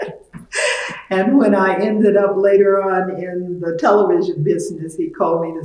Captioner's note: laughs